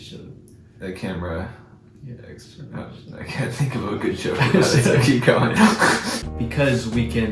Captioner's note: laugh